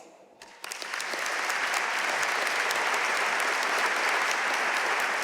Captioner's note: audience applauding